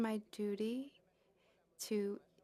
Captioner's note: speaking French